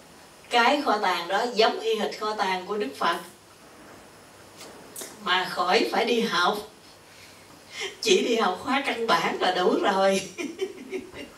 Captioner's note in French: rires